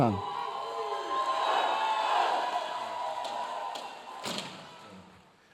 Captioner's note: audience cheering